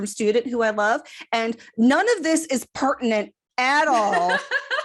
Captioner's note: laughter